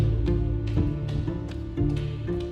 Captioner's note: footsteps